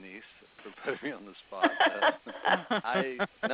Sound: laughter

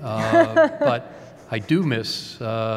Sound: laughter

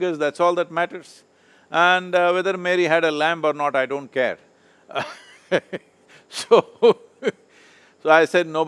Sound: laughs

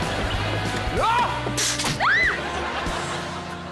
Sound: shrieking

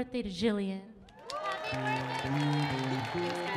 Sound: audience cheering

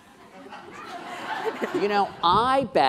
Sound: laughing

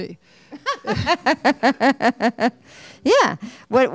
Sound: Hustvedt laughs

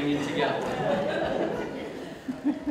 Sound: audience Laughs

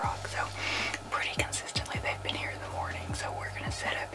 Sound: whispering

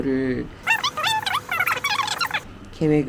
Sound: talking nonsense

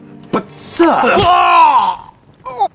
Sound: screams

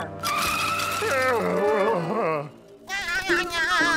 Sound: groaning; laughing

